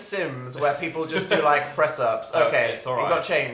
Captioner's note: laughs